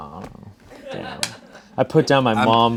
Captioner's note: crew laughs